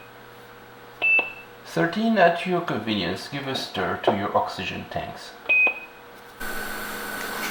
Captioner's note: low beep